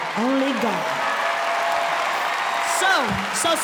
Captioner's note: cheering